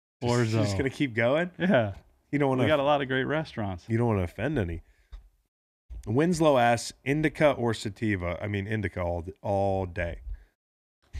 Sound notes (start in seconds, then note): 1.5 laughs